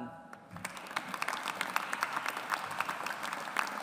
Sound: audience applauds

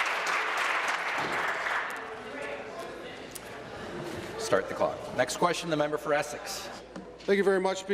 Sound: applause

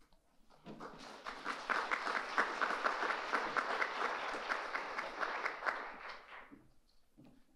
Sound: audience applauding

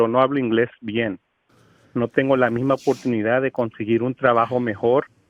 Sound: speaking spanish

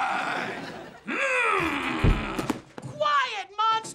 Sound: groaning

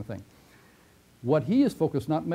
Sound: pause

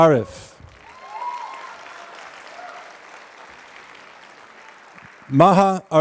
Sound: applause

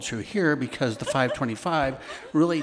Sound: attendees laughing

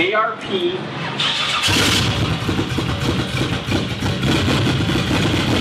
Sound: engine starts

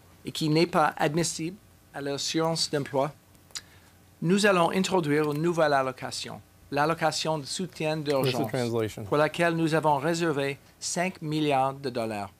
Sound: speaking french

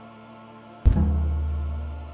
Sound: dull thud

